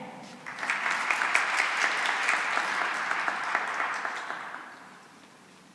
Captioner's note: applause